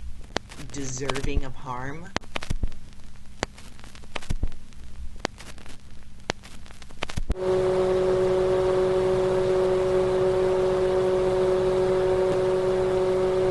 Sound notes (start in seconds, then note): 2.1 loud intermittent static